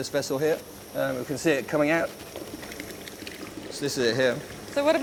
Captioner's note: liquid flowing